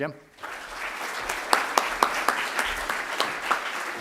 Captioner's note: audience applauds